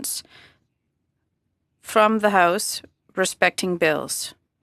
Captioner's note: speaking French